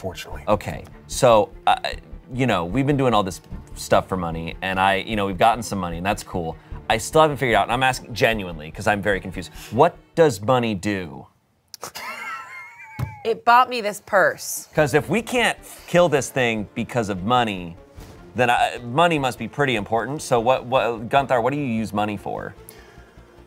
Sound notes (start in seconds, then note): 11.9 everyone laughs